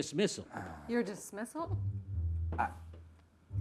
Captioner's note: Michael sighing